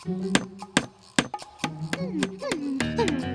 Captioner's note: whimpering